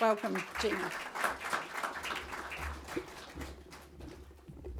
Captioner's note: audience clapping